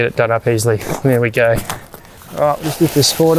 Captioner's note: tent crumpling